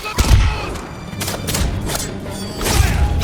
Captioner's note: gunshots